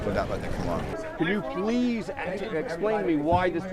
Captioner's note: voiceover